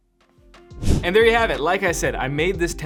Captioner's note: upbeat music; air whooshing